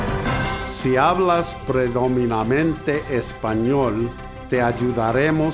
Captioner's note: speaks in foreign language